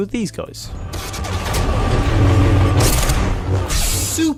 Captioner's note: sick Jedi lightsaber nosies